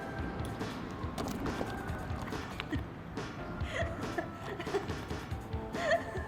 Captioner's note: acts with yandere laugh again